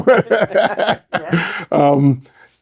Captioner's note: both laughing